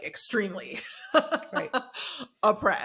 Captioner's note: laughs